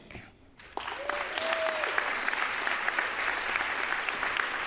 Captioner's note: audience applauds